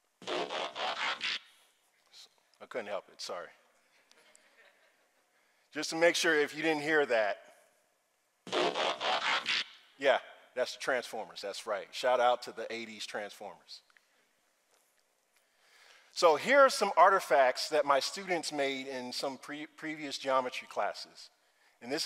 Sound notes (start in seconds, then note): 0.3 robotic tone beeping; 8.5 robotic tone beeping